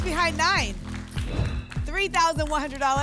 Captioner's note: whoosh